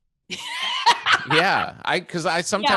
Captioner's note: laughing